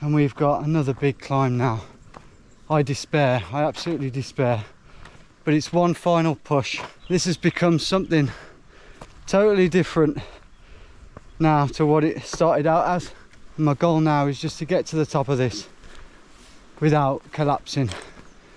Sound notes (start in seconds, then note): none